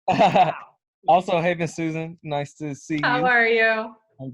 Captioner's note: laughs